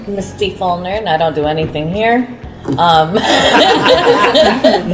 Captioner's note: laugh